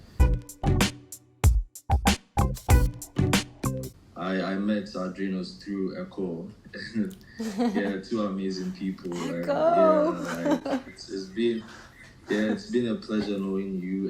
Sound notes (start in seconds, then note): 7.4 laughing; 9.2 whispers